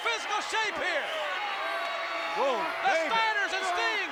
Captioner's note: applause